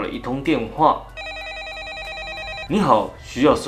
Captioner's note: phone rings